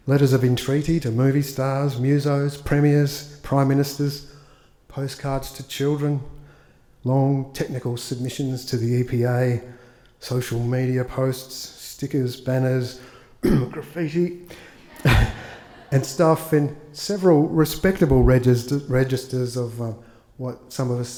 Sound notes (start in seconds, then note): 13.4 clears throat; 14.7 attendees laugh; 14.8 chuckles